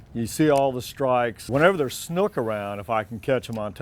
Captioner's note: water splashing